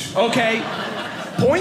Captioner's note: audience laughing